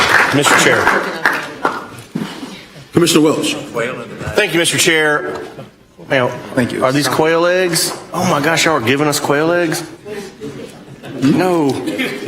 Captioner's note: applause